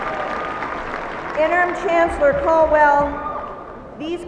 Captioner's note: applauding